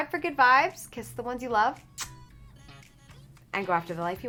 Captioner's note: smacks lips